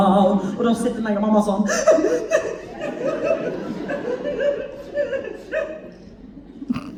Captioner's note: crying